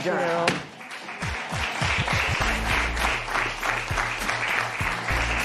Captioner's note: applause